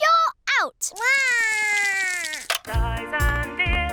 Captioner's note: cries